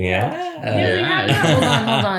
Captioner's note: laughter